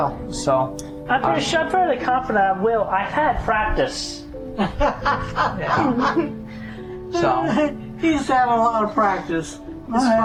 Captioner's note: cackling laughter